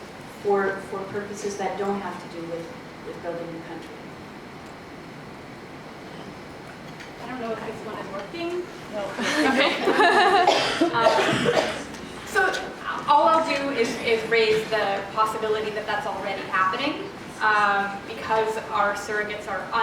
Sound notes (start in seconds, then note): 9.2 audience laughs